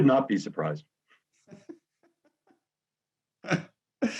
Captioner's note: laughs